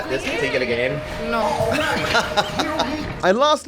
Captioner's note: laughs